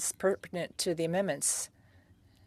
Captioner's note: speaking French